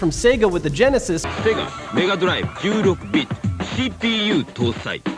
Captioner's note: SEGA commercial playing